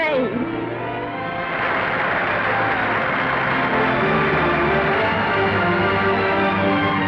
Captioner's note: orchestral music; audience applauding